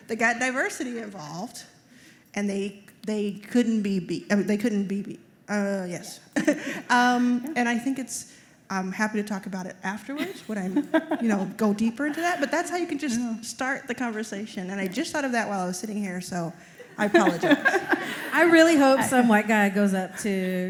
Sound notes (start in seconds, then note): 16.8 laughter